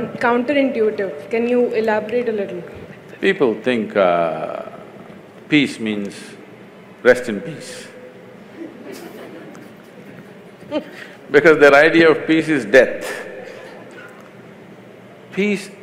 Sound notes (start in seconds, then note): 8.5 laughter